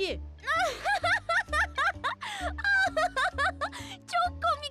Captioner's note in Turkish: Gülme sesi